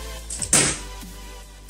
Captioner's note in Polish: shot